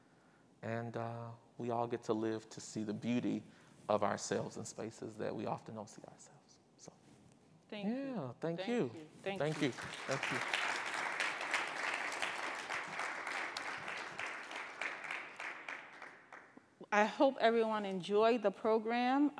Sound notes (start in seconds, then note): 11.1 attendees applauding